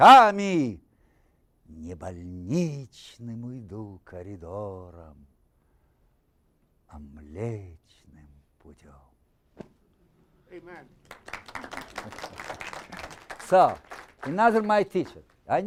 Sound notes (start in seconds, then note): 11.0 applause